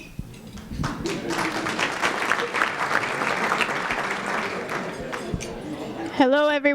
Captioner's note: applause